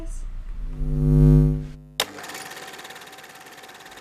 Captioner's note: vibration; camera reel rolling